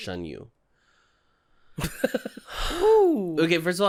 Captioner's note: giggles